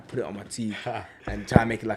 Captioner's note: laughs